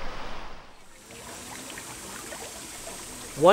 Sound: water Sounds

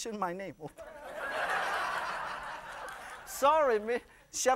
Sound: laughter

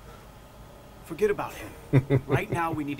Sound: laughs

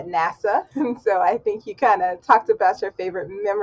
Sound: laughs

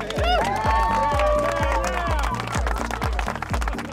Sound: clapping and cheering

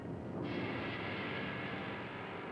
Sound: echoing

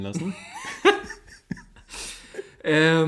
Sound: laughs

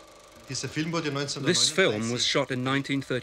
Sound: speaks foreign language

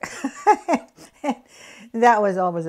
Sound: laughs

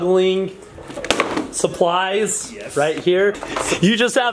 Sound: tire board falls over

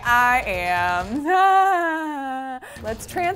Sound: laughs

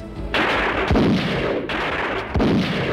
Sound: gunshots; suspenseful music

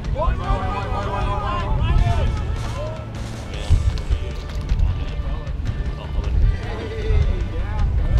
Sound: men shouting excitedly; indistinct chatter

